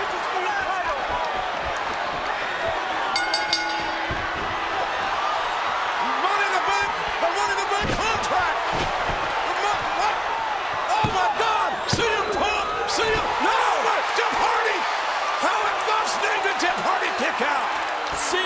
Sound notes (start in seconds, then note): 3.1 bell rings; 4.8 crowd roars